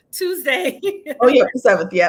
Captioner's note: laughing